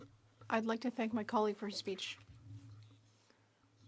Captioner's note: speaking French